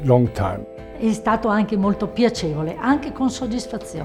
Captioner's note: italian